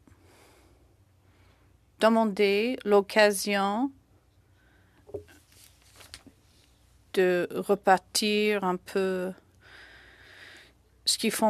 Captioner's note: speaking French